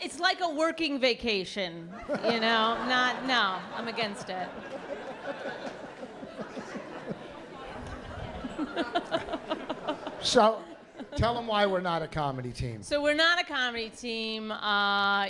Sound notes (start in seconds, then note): 2.1 laughter; 4.8 laughter; 8.6 laughs